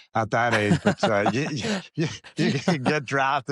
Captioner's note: laughs